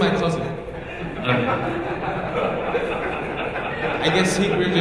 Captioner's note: audience laughing